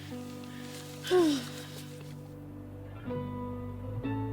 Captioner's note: sighs